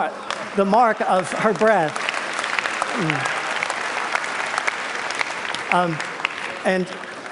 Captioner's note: applause